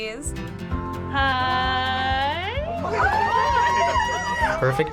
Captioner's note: people squealing